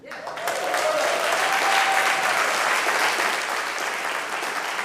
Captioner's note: audience clapping